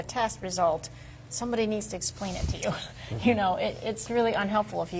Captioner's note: laughs